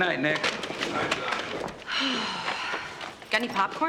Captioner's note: sighs